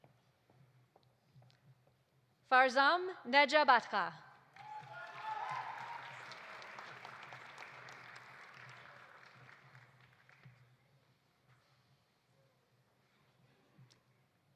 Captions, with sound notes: Farzam Nejabatkhah. (audience applauding) (audience cheering)